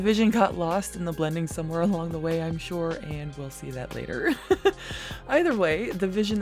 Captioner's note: laughs